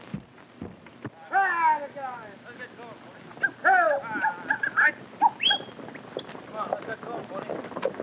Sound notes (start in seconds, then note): 1.8 cowboys whooping; 3.1 hooves clopping